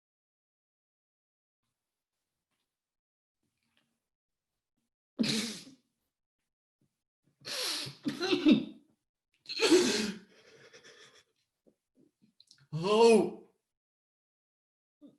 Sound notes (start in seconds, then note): 6.3 coughs, gasps for air